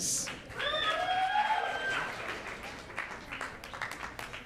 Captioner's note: audience cheers